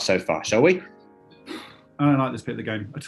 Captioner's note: sighs